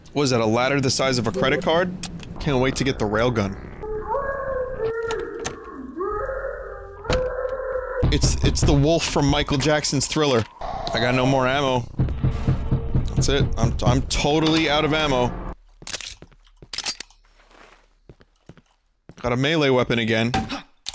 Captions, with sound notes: What is that, a ladder the size of a credit card? Can't wait to get the railgun. (Distant, muffled distressed screams) It's the wolf from Michael Jackson's Thriller. I got no more ammo. That's it, I'm totally out of ammo. Got a melee weapon again.